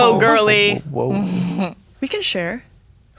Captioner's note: chuckles